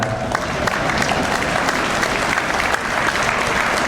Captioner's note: audience applauds